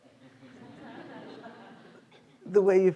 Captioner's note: students laughing